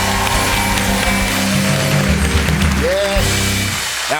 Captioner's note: cheers and applause